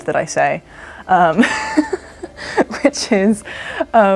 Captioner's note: laughter